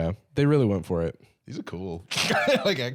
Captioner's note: laughs